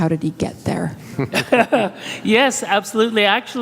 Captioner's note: laughs